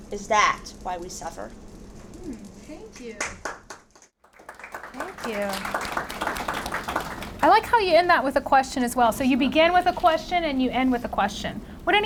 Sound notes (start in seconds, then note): 3.1 audience applauds